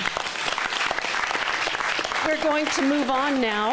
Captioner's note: clapping